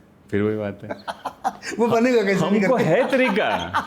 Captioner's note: laughs